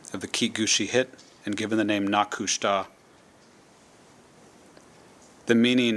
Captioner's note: speaking tlingit